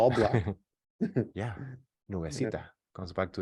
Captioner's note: laughs; speaking foreign language